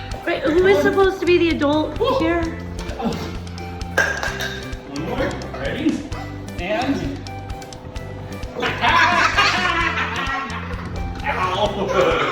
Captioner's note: laughs